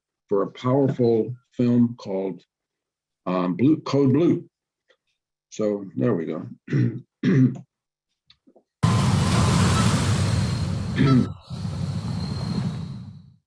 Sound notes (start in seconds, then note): 6.6 clears his throat